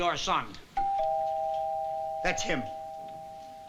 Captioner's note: doorbell chiming